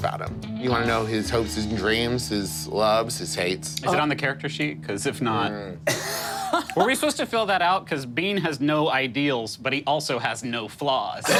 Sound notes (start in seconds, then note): 5.8 laughing